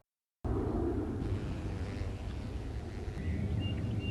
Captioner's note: bee buzzing; birds singing